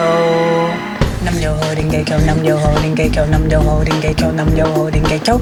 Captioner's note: chanting faster